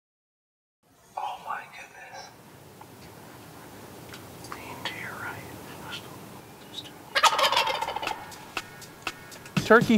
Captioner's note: whispering